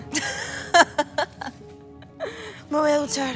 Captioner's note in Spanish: Risas